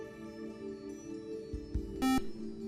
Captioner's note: buzzer